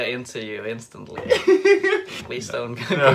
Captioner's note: laughs